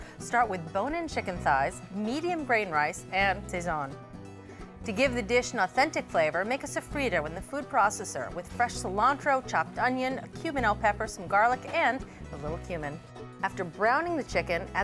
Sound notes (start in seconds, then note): none